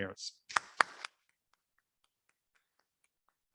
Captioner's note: applauding